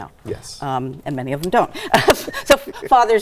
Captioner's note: laughs